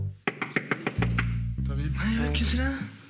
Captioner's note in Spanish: llaman a la puerta